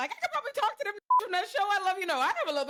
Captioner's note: beep